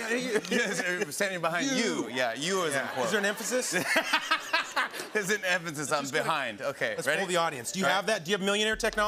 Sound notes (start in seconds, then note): 2.6 laughter